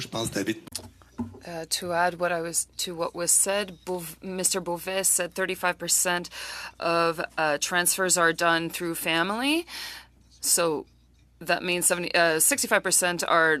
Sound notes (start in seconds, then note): 9.0 speaking French